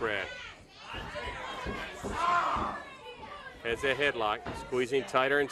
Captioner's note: crowd chatter